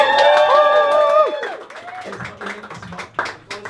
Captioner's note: crowd dies with excitement